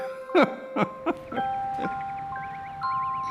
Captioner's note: laughs